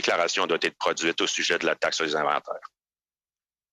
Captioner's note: speaking French